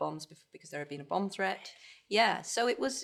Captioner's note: whispers